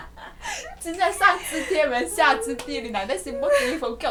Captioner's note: speaks in Mandarin